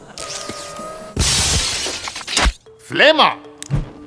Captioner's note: robot whirring; sparks crackling; flame roars